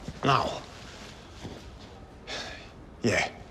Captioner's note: sighs